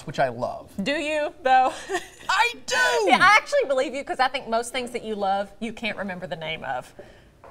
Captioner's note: laughter